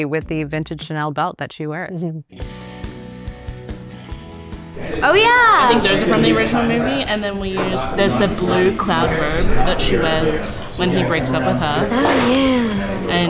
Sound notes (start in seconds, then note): 2.5 bright upbeat music; 4.6 crowd chattering